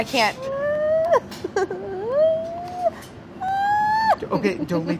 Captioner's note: high-pitched squealing